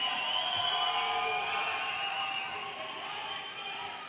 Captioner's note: audience cheers